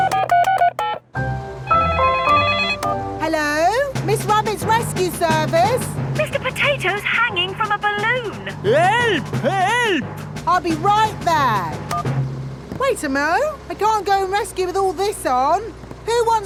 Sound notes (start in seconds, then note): 0.0 beeping; 1.9 phone ringing